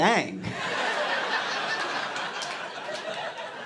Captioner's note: laughter